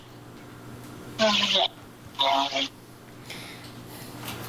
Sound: sound distorted, breaking up

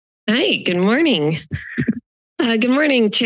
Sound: microphone tapping

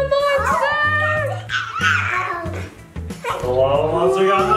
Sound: lava monster screeching

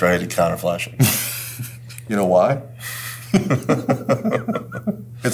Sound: laugh

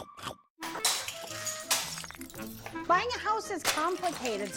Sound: glass breaking

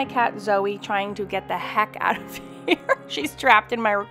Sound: laughs

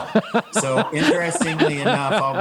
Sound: laughs

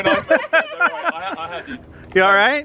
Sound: laughing

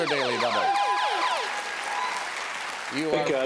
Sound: audience cheers

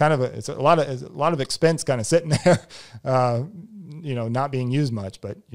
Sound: laughs

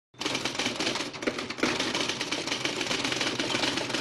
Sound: typewriter keys clicking

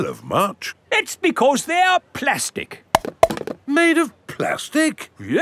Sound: clunks

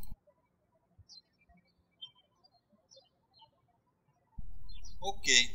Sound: birds chirping

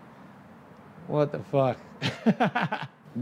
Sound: laughs

